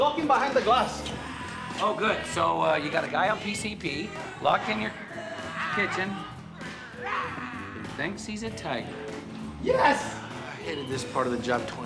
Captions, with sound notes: We managed to lock him behind the glass. Oh, good, so, uh, you got a guy on PCP locked in your... kitchen... (growls) ...who thinks he's a tiger. Yes! I hated this part of the job 20 years ago.